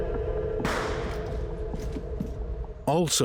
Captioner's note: menacing music; gunshot pops